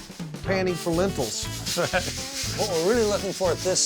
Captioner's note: rattling sound